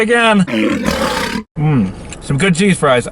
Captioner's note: lion roars